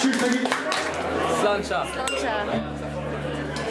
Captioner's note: cheers